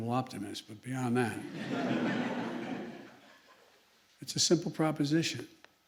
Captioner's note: laughter